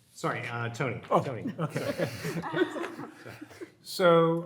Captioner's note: group laughing